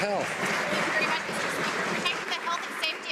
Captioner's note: some Applause